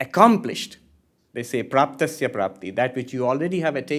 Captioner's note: hindi